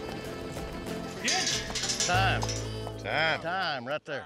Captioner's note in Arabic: ضربات حوافر، صراخ; قرع البوابة